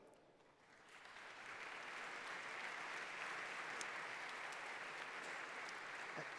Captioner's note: applause